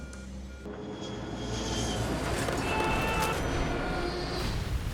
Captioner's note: engines scream; loud explosion